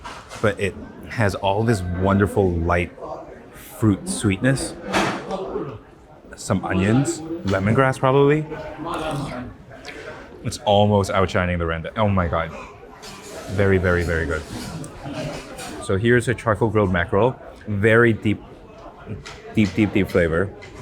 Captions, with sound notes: but it has all this wonderful light fruit sweetness. [metal clangs] Some onions. Lemongrass probably. [people chattering continues] It's almost outshining the rendang. Oh my God. Very, very, very good. [steel scrapes] So here's a charcoal-grilled mackerel. Very deep, deep, deep, deep flavor.